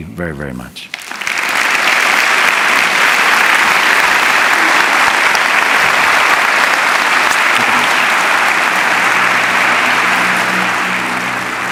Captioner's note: applause